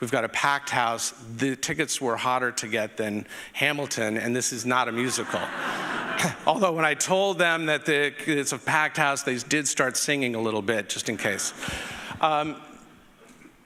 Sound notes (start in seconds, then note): 5.0 audience laughing